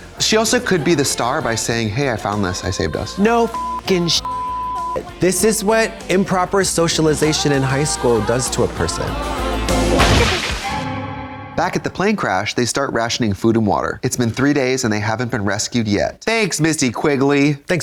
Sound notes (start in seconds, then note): 3.3 beep; 9.8 eerie tone; 10.0 electricity zapping